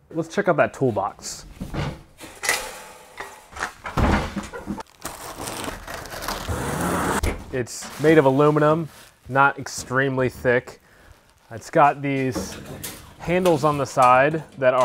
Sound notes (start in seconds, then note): 2.4 metal clanks; 4.0 box thumps; 4.8 cardboard ripping